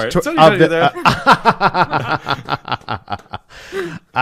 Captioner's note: laughter